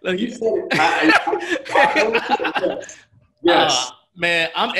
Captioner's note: laughs